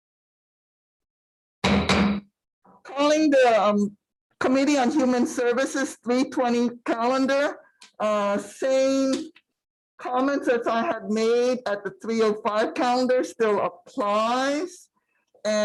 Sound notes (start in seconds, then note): 1.7 gavel taps